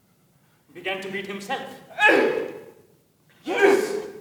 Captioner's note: Alan grunts in pain